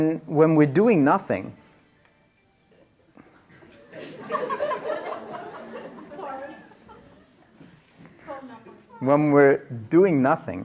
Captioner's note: laughter; different cellphone rings